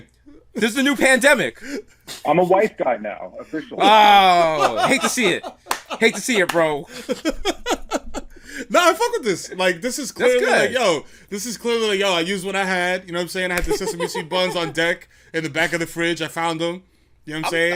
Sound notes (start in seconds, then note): 3.4 laughs; 6.8 laughter